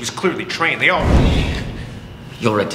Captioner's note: air whooshing